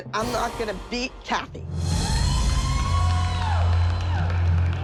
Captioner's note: cheering and applause